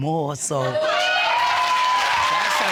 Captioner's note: audience cheering